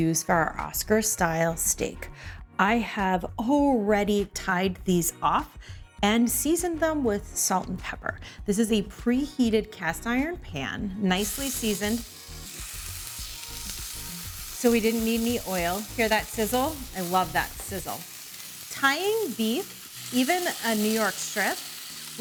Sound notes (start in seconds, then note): 12.2 steak sizzling; 12.2 upbeat music